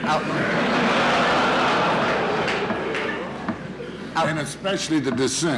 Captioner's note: laughter in courtroom